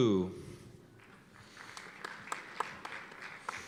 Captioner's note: applause